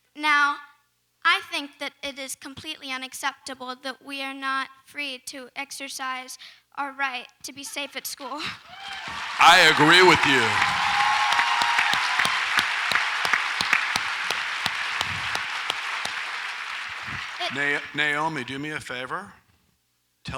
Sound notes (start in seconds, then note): 11.0 audience applauds